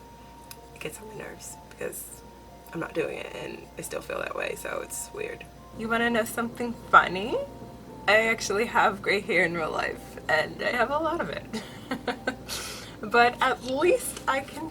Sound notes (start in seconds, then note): 11.6 laughs